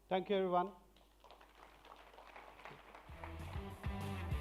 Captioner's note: applause